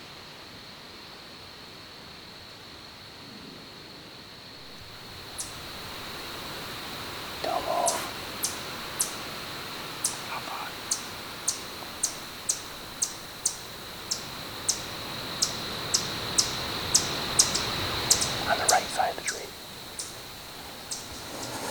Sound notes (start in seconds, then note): 0.3 wind/birds; 9.5 bird calling